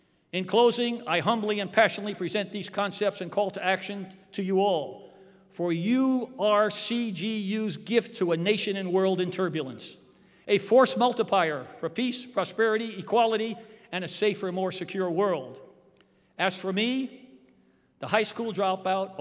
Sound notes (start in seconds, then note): none